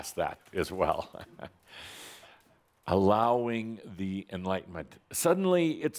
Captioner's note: Adamus chuckles a little